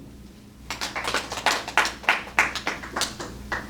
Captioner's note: applause